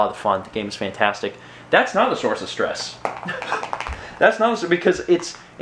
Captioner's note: chuckles